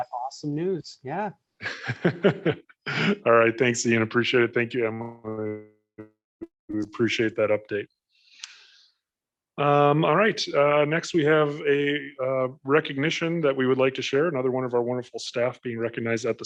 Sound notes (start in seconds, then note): 1.6 laughs